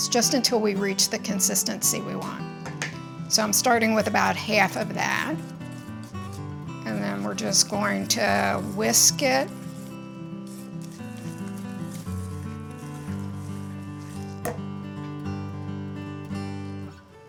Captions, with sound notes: It's just until we reach the consistency we want. So I'm starting with about half of that, and then we're just going to whisk it. (whisk whirring) (gentle music continues)